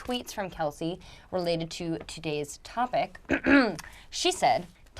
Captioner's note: clears throat